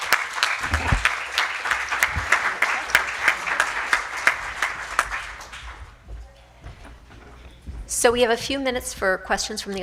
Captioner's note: applause